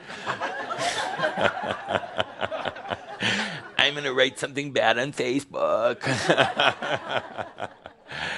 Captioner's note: laughter